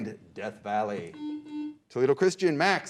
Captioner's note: beep